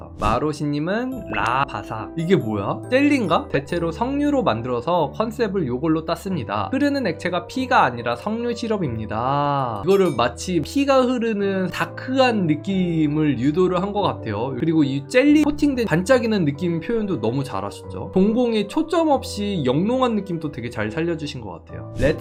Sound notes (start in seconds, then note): 3.4 voiceover